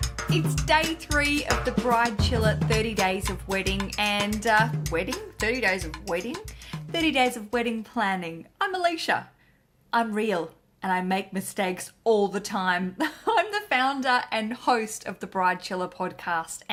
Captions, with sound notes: - It's day three of the Bridechilla 30 days of wedding, and, wedding? 30 days of wedding? 30 days of wedding planning. I'm Aleisha. I'm real and I make mistakes all the time (chuckles). I'm the founder and host of the Bridechilla Podcast.